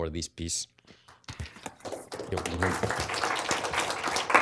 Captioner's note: applause